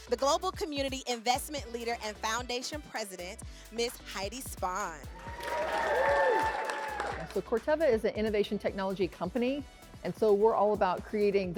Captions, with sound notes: the global community Investment Leader and Foundation President, miss Heidi Spahn. [cheering] So Corteva is an innovation technology company, and so, we're all about creating